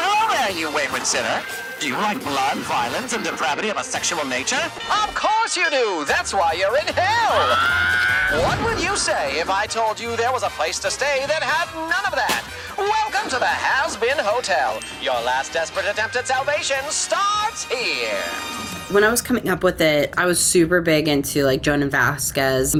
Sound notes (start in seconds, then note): 7.2 sinner screaming; 12.2 confetti cannon pops